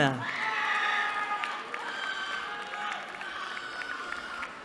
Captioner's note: cheering